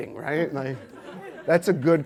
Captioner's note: audience laughs